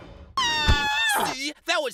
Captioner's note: basketball screams